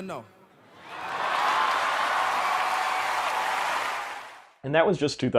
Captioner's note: applause